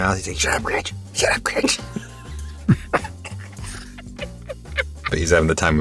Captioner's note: laughs